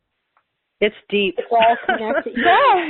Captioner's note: laughs